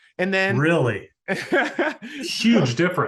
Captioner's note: laughing